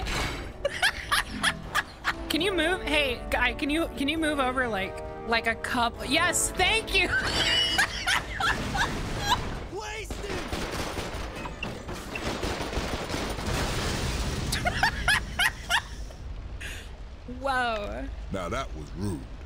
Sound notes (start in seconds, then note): 0.6 laughing; 7.1 laughing; 10.0 guns firing; 13.4 explosion; 14.5 laughs